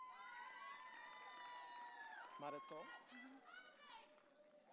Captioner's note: audience cheering